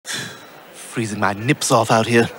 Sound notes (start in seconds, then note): 0.0 exhale